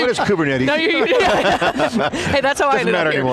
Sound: laughs

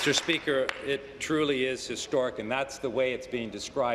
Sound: applause

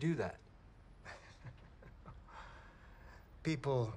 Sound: Kemp chuckles

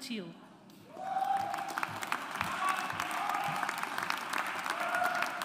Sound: audience applauds

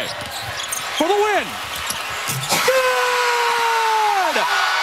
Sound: cheering and applause

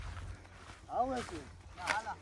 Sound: Arabic

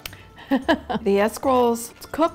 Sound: laughing

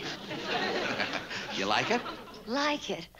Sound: laughs

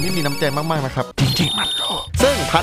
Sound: whipser

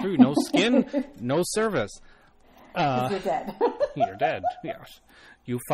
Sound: laughs; laughs

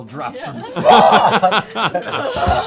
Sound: laughing

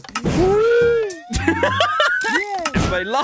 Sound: laughter

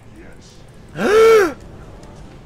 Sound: gasps

